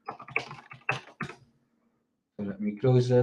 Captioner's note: keyboard clicks